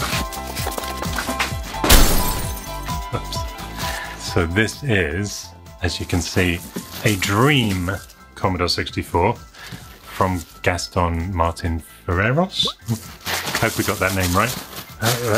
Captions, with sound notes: (crashing sound) - Oops. So this is, as you can see, a Dream Commodore 64 from Gaston Martin Furraris? Hope we got that name, right.